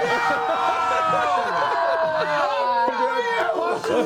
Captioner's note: screaming